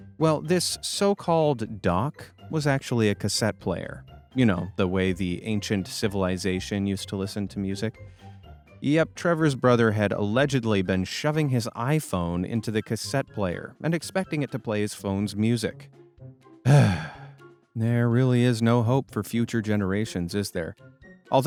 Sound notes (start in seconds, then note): 16.6 sighing